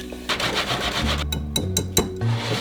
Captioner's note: bowl sliding